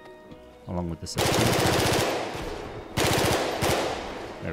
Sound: gunfire popping

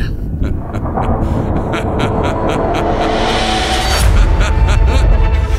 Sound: laughs

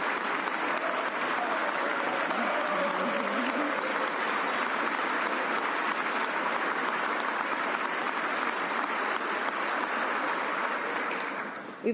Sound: applause

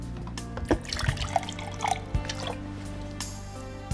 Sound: water pours into glass

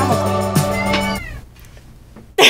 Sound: loud meow

